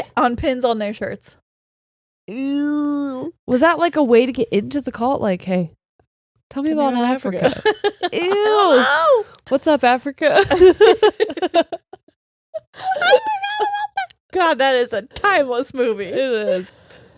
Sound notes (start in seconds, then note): 10.3 laughing